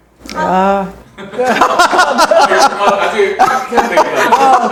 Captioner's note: hahahahahaha